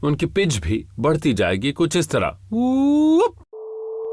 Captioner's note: increasing pitch